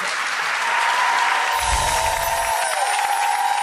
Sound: applause

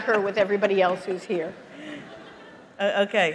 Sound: laughter

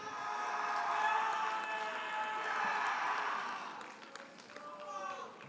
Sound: audience cheers and applauds

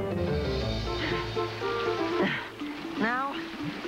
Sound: panting

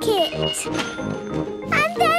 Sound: cash register dinging

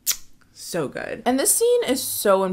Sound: kissing

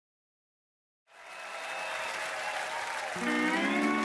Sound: audience cheering

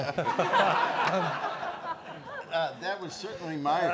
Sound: all laugh

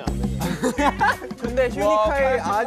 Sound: kekeke

